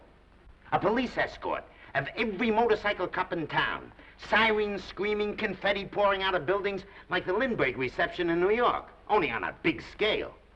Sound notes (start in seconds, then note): none